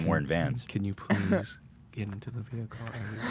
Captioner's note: in quiet voice